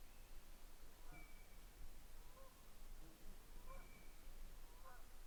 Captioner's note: bird quacking